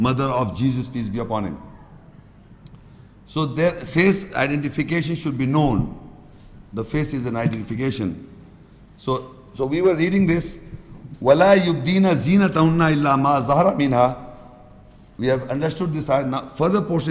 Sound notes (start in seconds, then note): 11.2 Arabic